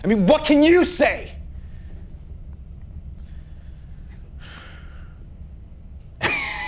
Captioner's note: crickets chirping; tense music; Tyler laughs